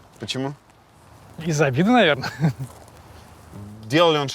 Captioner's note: chuckles